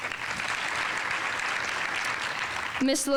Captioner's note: audience applauding